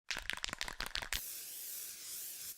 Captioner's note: spray can rattling; paint spraying